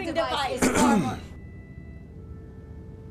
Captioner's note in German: Nevin räuspert sich